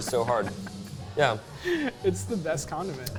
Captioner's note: laughs